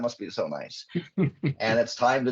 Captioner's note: chuckling